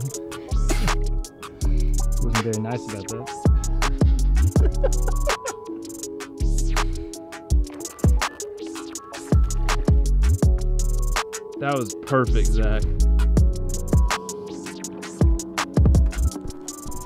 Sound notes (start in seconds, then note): 4.4 laughing; 14.2 upbeat music